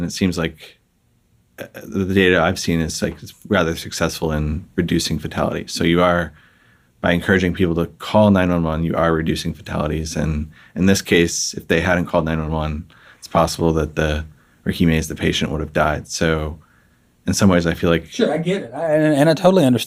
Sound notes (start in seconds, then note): none